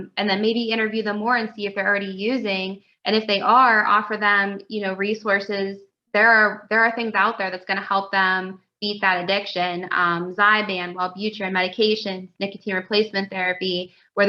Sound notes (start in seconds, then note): none